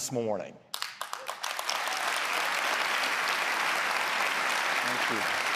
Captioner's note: applause